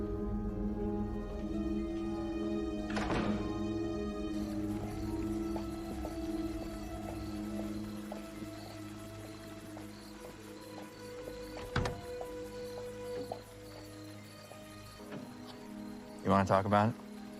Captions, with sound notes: (insects chirping) YoYou want to talk about it?